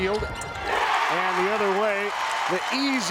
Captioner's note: crowd cheers